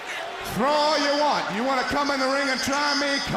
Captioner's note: crowd cheering